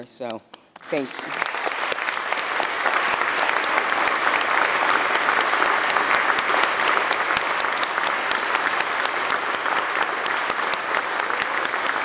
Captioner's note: applause